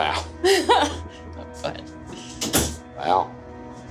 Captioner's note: chuckles